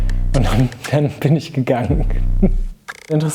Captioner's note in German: Lachen